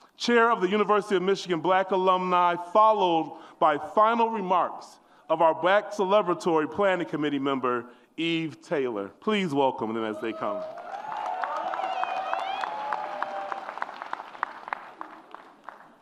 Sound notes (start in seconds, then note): 10.1 audience cheers